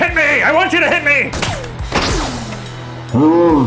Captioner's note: shot whirring